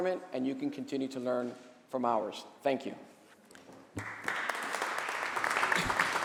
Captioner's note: applause